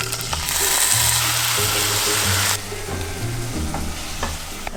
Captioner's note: gentle music; sizzling